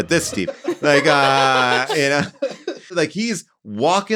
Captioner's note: all laughing